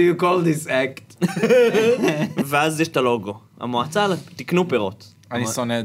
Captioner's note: laughs